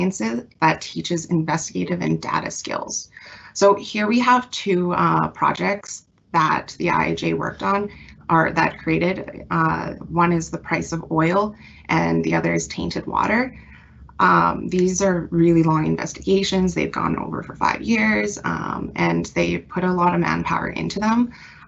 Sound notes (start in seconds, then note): none